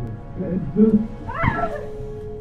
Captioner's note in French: Cri